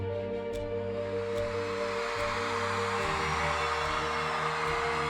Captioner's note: cheering